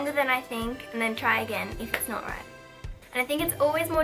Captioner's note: clap